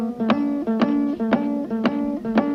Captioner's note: none